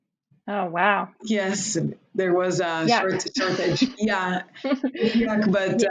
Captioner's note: laughs